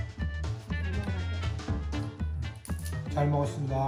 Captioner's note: Umma speaking Korean; Appa speaking Korean